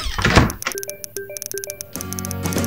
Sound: frantic typing sounds

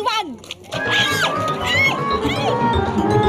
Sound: screams

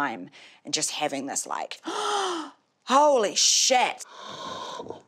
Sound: gasps

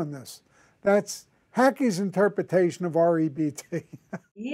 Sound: chuckles

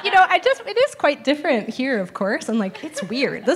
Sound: laughs

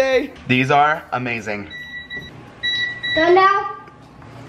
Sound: oven timer

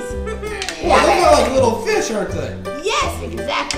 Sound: voiceover

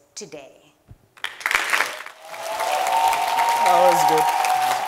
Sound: crowd cheering

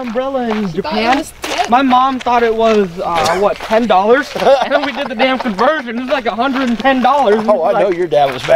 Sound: laugh

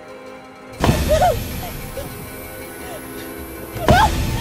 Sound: Amanda screaming

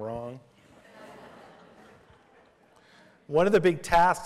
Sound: laughter

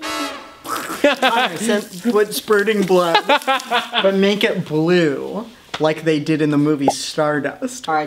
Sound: gross sqlurch sound; laughing

